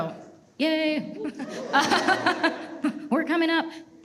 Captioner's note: everyone laughs